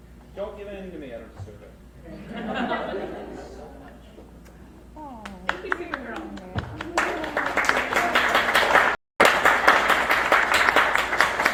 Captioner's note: crowd laughs, claps and "awws" for the kids